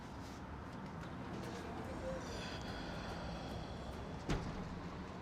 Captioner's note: Mark breathes deeply; people chattering